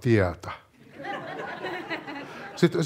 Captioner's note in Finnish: yleisö nauraa